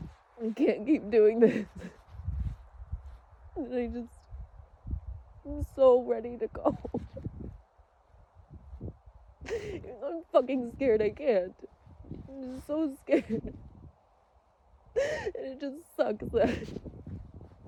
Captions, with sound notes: I can't keep doing this. And I just...I'm so ready to go. *sobs trail* *sobs lightly through words* Even though I'm f*cking scared I can't. I'm just so scared. And it just sucks that...